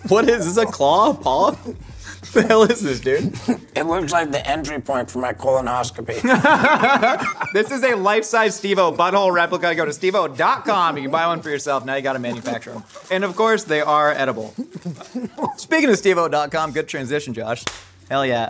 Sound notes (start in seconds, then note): 6.2 laughing